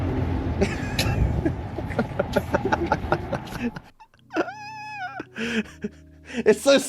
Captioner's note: laughing